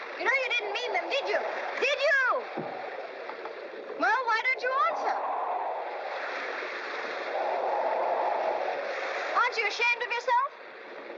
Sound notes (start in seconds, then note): 6.1 ocean spray and wind howling